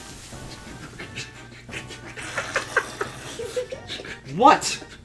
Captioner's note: whispering and laughing